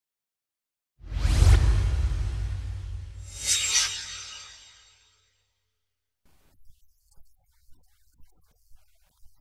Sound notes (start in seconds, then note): 1.0 swoosh